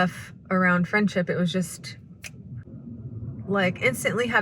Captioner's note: snaps fingers